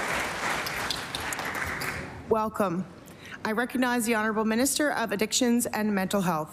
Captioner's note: applause